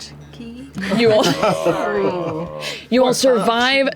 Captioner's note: groaning